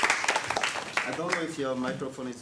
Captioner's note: audience applauding